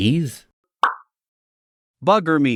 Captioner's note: pop